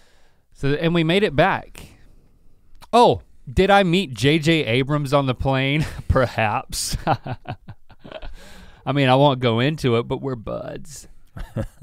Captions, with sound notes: And we made it back. Oh, did I meet J.J. Abrams on the plane? Perhaps. (chuckles dramatically) I mean I won't go into it but we're buds.